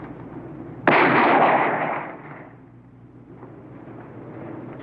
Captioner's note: gun shot